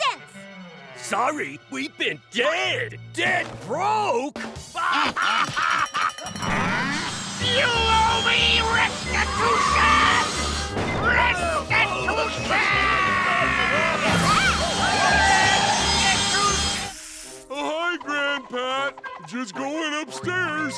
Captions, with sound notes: Sorry. We've been dead! Dead broke! [laughing] You owe me restitution! Restitution! Restitution! Oh hi Gran Pat, just going upstairs.